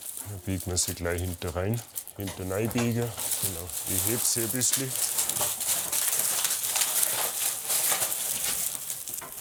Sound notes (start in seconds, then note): 5.5 crackling